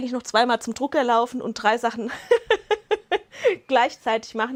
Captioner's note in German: Lachen